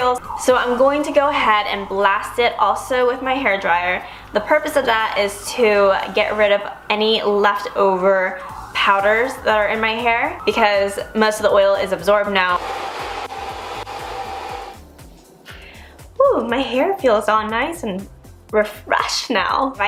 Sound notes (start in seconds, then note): 12.4 using Hair Dryer To Blow Dry Hair